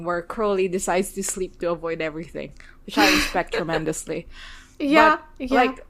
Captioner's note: laughs